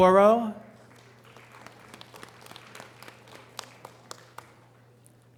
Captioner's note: audience applause